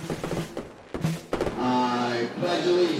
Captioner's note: firework crackles; drum roll